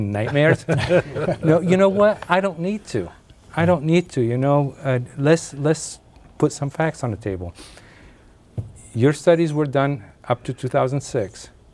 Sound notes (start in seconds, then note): 3.5 laughing